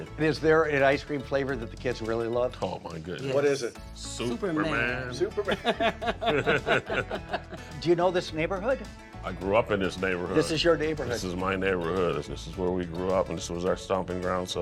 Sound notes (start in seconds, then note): 5.3 all laughing